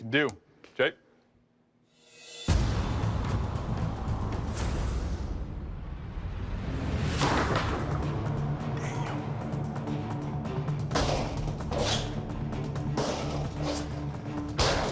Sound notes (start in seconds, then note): 7.7 whispering